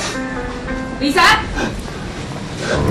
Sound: gasps

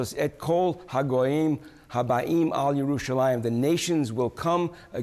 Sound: speaking Hebrew

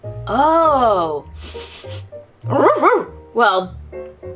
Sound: sniffs and barking

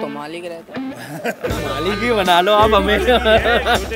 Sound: laughs

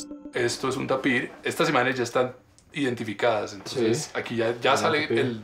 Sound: speaking in foreign language

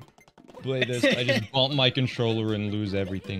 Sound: laughs more

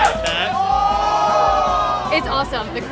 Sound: crowd reacting; crowd yelling

